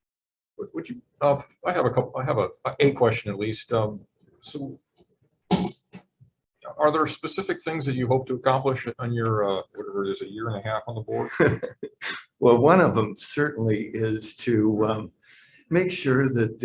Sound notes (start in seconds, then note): 11.0 laughing